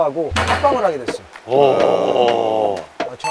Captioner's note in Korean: 감탄